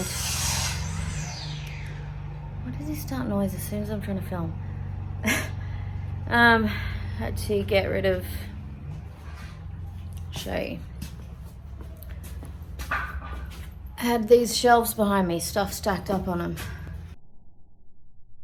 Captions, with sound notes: [circular saw starts up] Why does he start noise as soon as I'm trying to film? [scoffs] Um, had to get rid of... I'll show you. Had these shelves behind me, stuff stacked up on them.